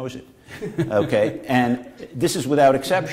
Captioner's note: laughter